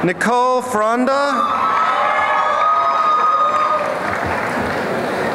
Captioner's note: applause and cheering